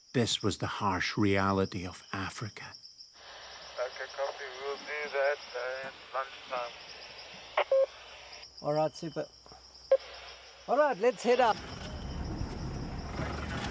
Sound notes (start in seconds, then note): 3.8 person On Radio; 7.5 radio beeps